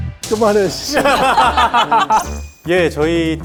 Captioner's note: haha